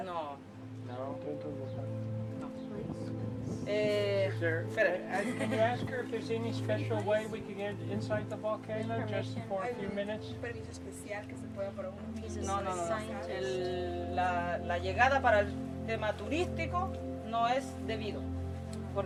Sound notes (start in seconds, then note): 4.9 speaker laughs; 10.5 speaker speaking in foreign language; 14.3 speaker speaking in foreign language